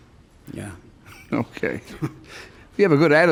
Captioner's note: chuckles